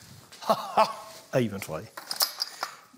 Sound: laughs

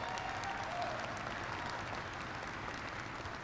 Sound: applause

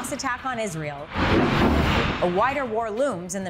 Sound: bombs booming

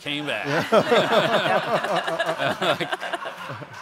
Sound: all laugh

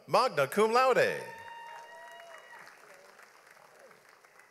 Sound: audience applauds

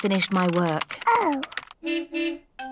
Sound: car horn beeps

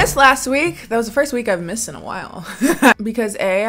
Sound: chuckles

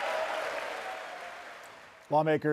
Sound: applause

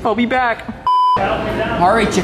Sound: beep

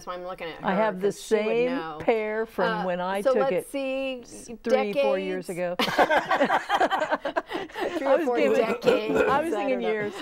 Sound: laughing

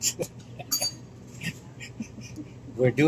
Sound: laughing

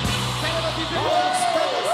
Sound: GRITOS DEL PúBLICO

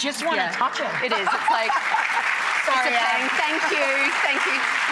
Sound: audience claps and cheers; laughs

